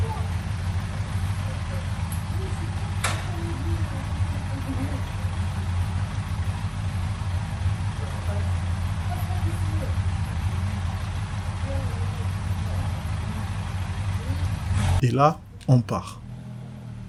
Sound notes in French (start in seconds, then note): 1.1 Ronronnement du moteur & qui m'engueule